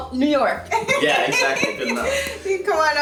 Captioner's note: laughing